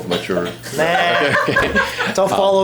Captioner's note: laughter